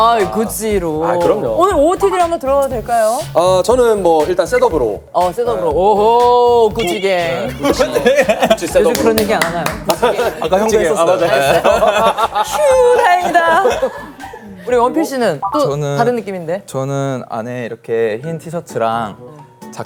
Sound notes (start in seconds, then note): 7.5 hahaha